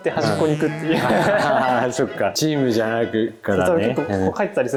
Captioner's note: laughs